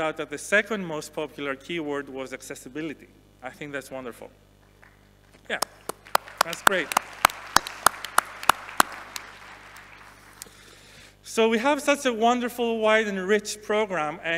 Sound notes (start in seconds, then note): 5.5 audience applauding